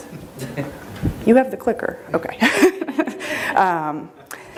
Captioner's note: chuckles